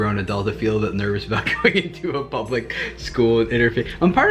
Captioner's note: laughs